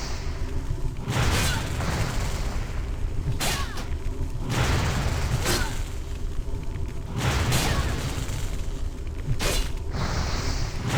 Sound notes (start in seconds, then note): 4.4 gun fires